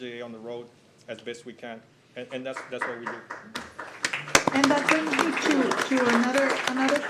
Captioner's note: applause